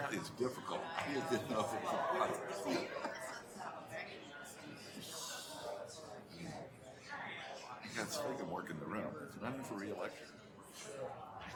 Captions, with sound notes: Apparently, it's difficult. (people chattering) I can't sleep and work in the room and I'm in for reelect.